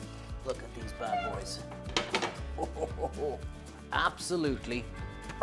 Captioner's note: laughs